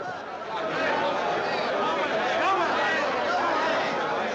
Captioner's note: people chattering